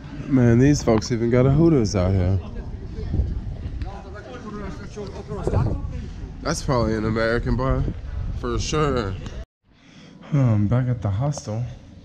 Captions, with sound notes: Man, these folks even got a Hooters out here. (speaking in foreign language) That's probably an American bar for sure. Huh, I'm back at the hostel.